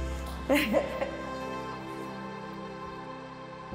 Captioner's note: Pamela laughs